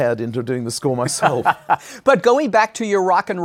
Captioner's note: laughs